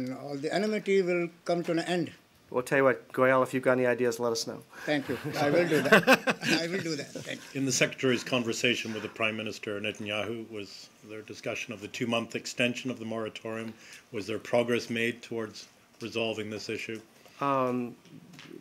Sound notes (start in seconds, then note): 5.0 laughter